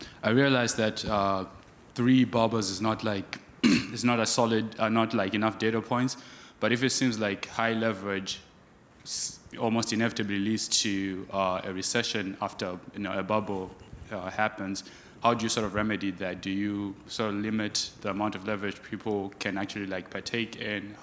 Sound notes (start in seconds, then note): 3.6 man clears throat